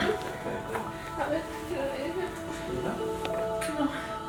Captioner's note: deep breaths in and out